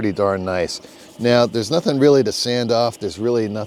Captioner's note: hand rubbing